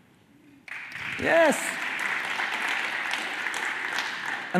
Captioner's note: cheers and applause